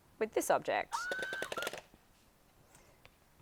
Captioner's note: Elmo laughing